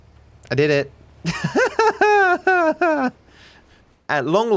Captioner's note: laughs